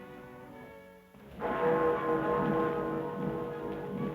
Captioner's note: bell tolling